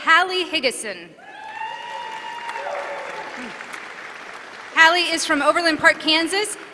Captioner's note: applause